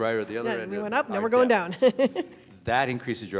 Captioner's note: chuckles